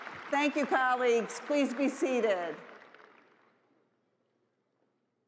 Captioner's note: applause